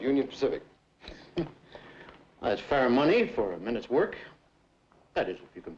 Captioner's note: chuckles